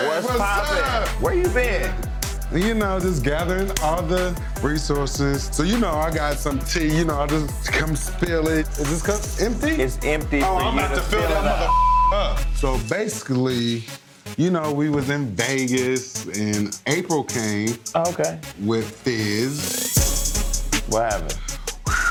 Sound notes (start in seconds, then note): 11.6 beep